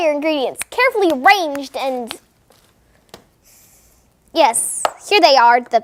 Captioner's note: snapping